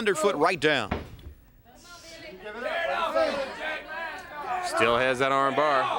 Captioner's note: crowd chatter